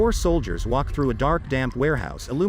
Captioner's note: water dripping